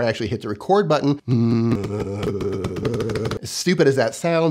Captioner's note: humming